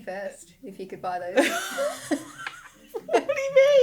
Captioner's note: laughing